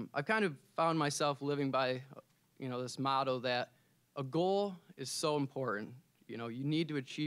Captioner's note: none